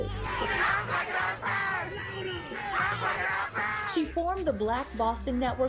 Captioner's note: chanting